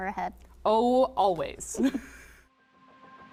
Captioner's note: laughing; gentle rhythmic music